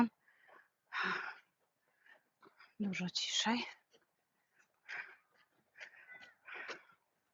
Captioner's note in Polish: westchnienie; wciągnięcie powietrza